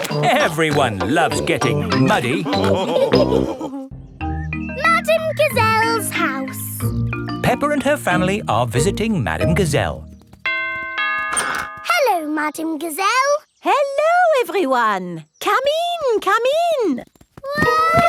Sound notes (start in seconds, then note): 10.4 doorbell rings